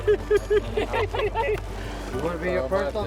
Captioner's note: all laughing